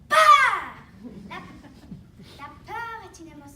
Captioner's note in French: rires